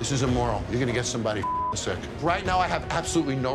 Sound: beep

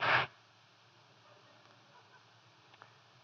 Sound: laughter

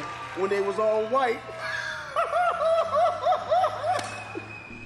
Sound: laughing

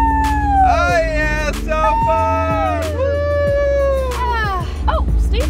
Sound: engine revs away

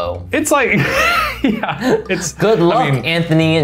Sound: laughing

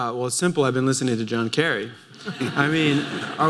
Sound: laughter

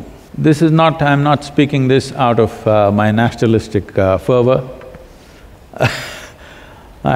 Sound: laughs

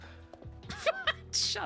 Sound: laugh

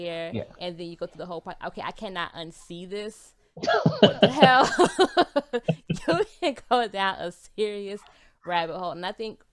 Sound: both laughs

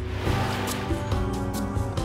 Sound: waves crashing; tranquil music

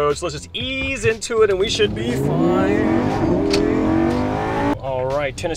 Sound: engine rev of complete and total week 1 dominaton....again

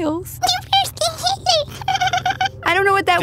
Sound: laughs

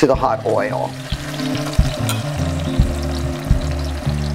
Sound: pan sizzles

